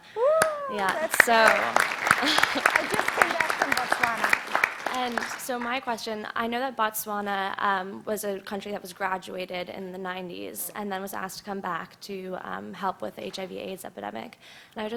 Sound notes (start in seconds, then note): 0.2 clapping